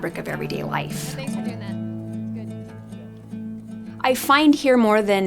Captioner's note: chatting